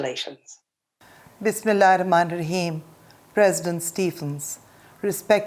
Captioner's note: non-english speech